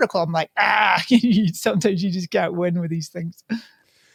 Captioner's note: laughs